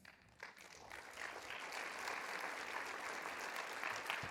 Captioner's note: everyone applauding